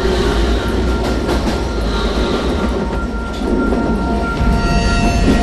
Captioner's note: sounds of train on tracks